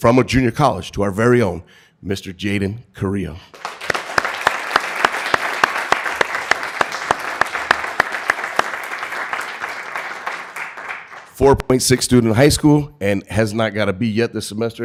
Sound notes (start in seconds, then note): 3.5 applause